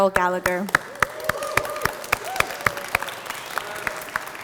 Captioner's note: crowd cheers